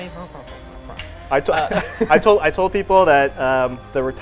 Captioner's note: chicken clucks